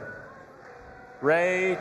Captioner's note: audience applauding and cheering